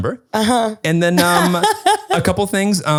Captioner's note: laughs